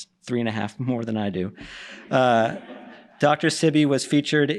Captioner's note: laughter